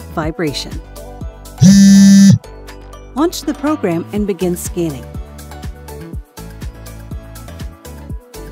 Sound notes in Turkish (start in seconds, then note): 1.6 Titreşim